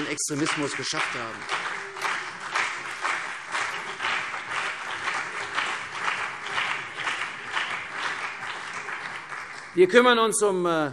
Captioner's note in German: Beifall CDU und BÜNDNIS 90/DIE GRÜNEN